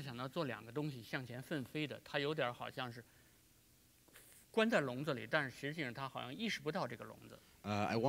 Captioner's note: speaking in Chinese